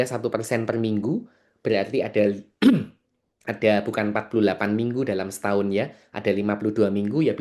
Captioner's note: berdehem